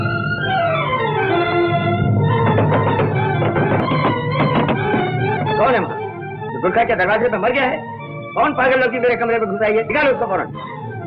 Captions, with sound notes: (Door knocks) Where are the guards? How come a girl has entered my room? Take her away.